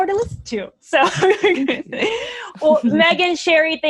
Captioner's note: laughs